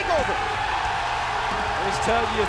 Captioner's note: crowd cheering